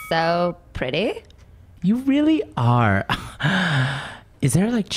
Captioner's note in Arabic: يسخر